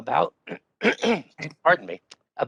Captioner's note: throat clearing